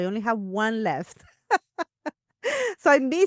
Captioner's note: laughs